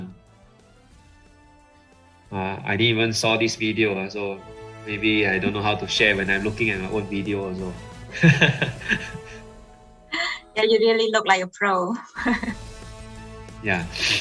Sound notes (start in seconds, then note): 8.2 laughing